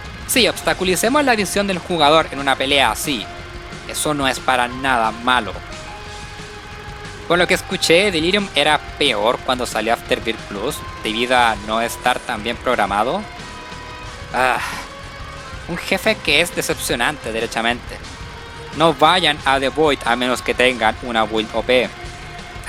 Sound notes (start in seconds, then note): 14.4 sigh